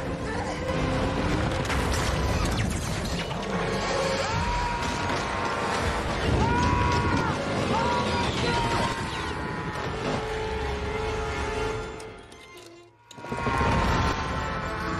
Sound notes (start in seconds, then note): 3.9 Roman screams